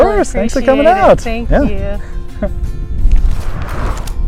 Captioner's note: laughter